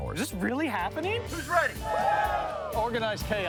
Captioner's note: people shouting